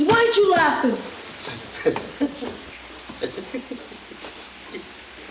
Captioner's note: patron giggles